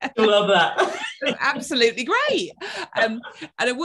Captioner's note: laughing